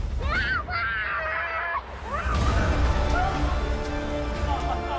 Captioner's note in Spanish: Gritos